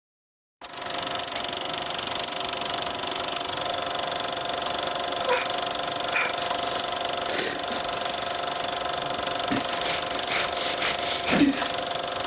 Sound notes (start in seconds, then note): 0.2 film reel running; 6.5 man sniffing, crying; 11.1 gasping in pain